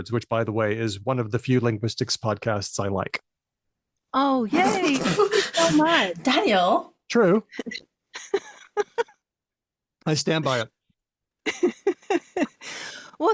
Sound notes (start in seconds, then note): 4.5 laughs